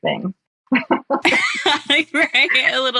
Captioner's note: both laughs